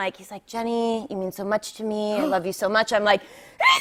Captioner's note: gasps